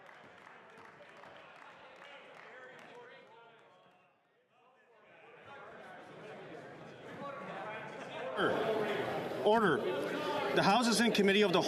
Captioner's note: some Applause